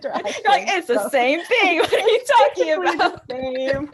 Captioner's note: laughs